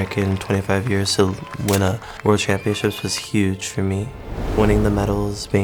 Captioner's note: camera clicks